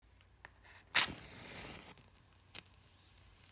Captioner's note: match strikes